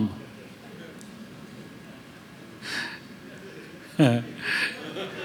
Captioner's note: laughter